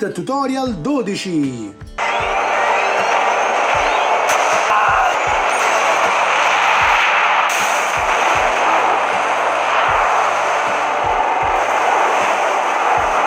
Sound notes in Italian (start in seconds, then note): 3.4 Applauso